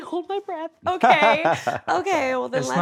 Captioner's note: laughs